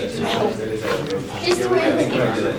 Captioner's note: talking